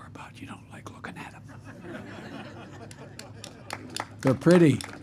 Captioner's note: laughter and applause